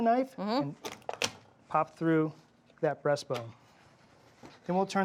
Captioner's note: bone cracks